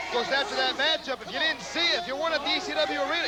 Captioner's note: crowd cheering